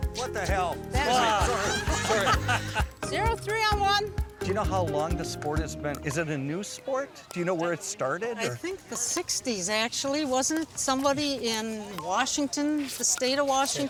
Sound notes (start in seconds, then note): 1.2 laughter